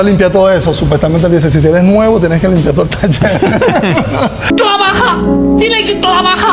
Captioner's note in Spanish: risas